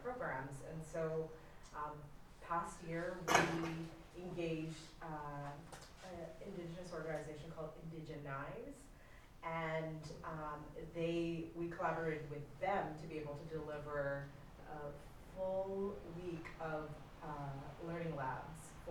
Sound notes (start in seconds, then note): none